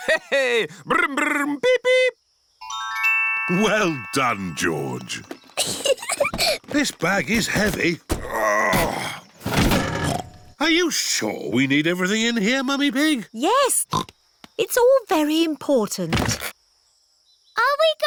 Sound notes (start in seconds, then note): 5.6 peppa giggles; 8.1 grunts; 10.4 snorts